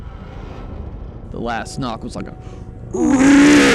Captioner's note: mimics grunting sound